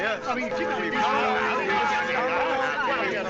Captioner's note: church bell tolling